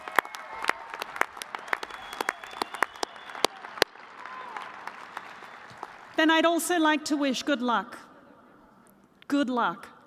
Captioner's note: applause